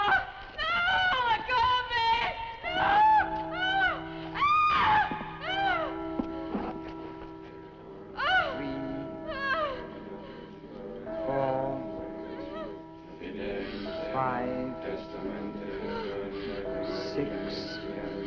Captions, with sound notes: Ah! No! Let go of me! No! (screams) (clock chiming) - Three. (people chanting) Four, five, six, seven.